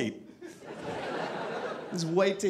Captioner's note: audience laughing